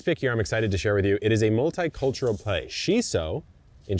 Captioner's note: seeds rattling